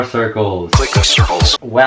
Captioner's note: osu! startup sound